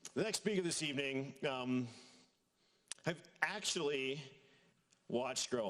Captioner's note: none